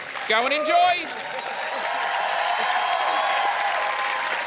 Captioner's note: cheering and applause